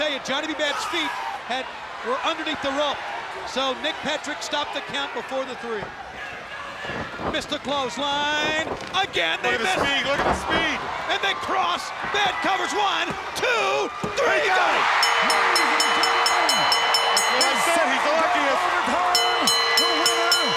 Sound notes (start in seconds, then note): 6.7 footsteps plodding; 10.0 body thudding; 14.8 bell ringing; 15.0 hands thudding